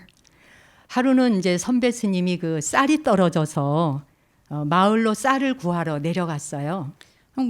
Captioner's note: speaking in Korean